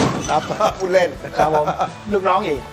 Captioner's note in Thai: หัวเราะ